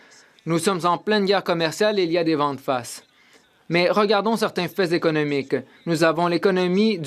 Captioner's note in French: voix de l'interprète